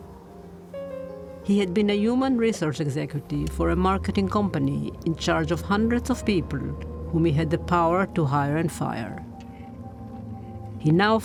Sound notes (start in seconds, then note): 1.6 voice-over